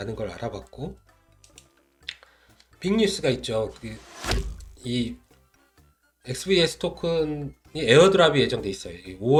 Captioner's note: shoo~Bang!